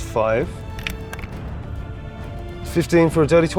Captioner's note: die rattling